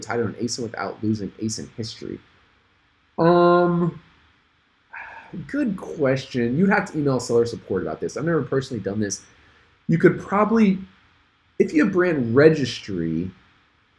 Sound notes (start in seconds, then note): 4.9 sighs